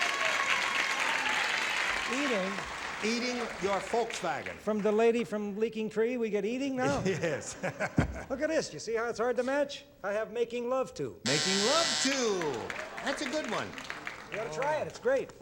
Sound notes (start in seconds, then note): 0.0 applause; 11.2 buzzer